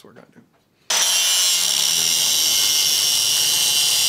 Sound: welding

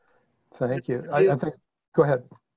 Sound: murmurs

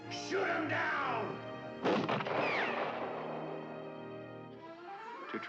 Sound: cannon shoots

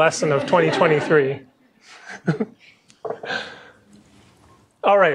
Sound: laughter

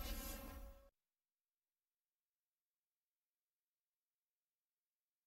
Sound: silence

